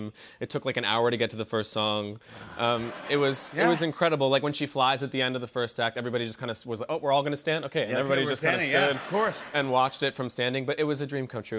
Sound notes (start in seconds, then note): 2.5 laughter